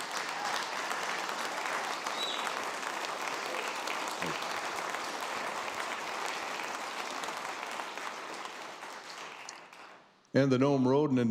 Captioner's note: ~applause~